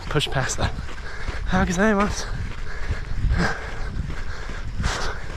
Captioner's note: speaking in foreign language